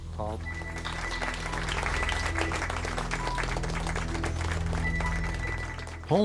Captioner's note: crowd applauds